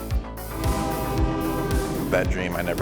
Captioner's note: train horn blowing